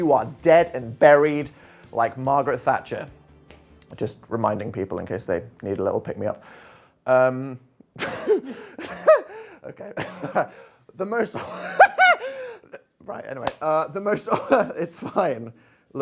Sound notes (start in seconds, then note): 8.7 chuckles; 11.4 giggles